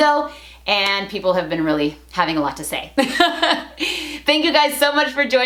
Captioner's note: laughs